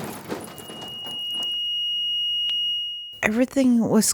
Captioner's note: heart monitor beeping